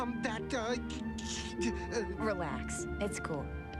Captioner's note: stutters